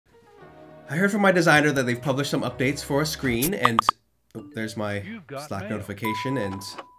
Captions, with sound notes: I heard from my designer that they've published some updates for a screen and-- [Slack notification sound] there's my Slack notification and--